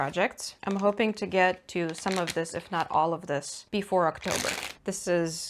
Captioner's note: ziplock opens